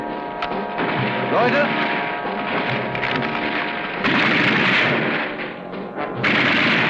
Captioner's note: speaking in a foreign language